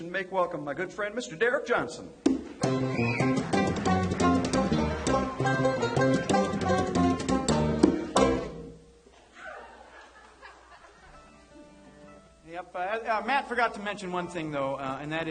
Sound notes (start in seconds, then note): 5.3 audience applauds; 5.3 laughing